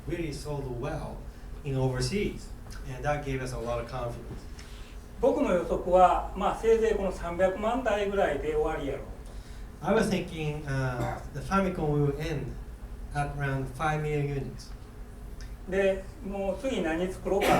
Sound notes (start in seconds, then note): 5.2 speaking in foreign language; 11.0 coughing; 15.8 speaking in foreign language